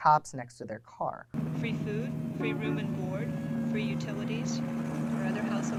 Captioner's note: siren which grows louder as time goes on